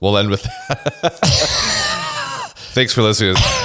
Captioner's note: laughs